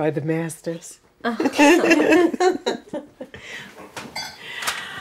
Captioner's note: all laughing